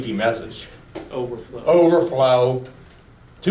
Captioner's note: voiceover